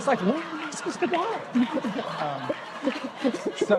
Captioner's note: laughter